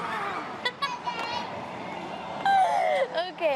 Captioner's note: laughing